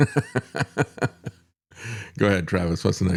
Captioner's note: laughs